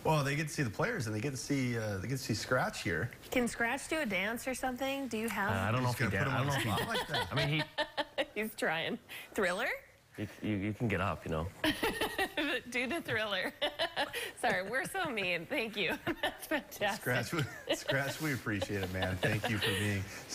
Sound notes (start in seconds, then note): 14.9 laughter